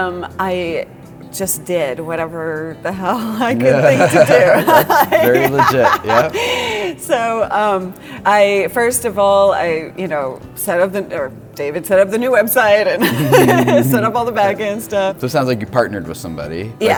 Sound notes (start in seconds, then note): 3.6 enthusiastic laughter